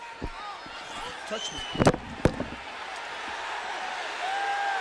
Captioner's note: headphone thudding; audience cheering